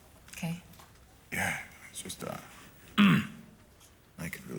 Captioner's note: clears throat